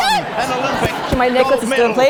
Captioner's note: laugh